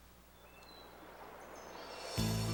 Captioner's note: bird chirping